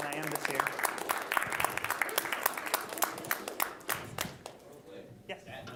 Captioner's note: applause